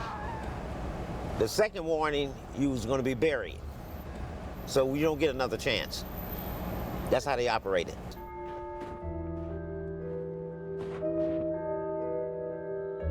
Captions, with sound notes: The second warning, you were gonna be buried. So you don't get another chance. That's how they operated. [church bell, dark music]